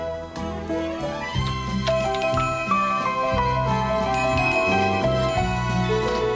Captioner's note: shop bell jingles